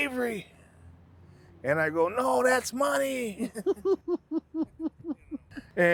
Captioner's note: laughing